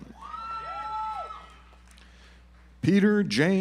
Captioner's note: audience applauds